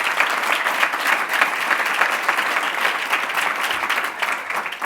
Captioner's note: applauding